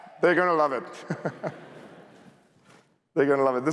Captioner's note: laughter